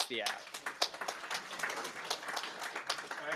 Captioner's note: applause